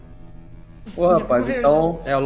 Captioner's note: laugh